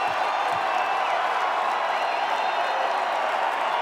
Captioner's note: crowd cheering